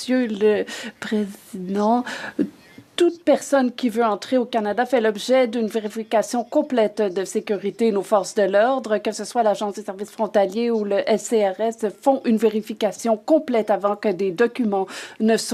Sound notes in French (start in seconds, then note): 3.4 voix de l'interprète